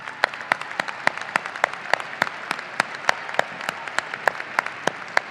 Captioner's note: audience applauding and cheering